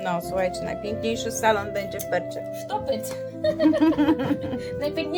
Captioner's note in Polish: śmiech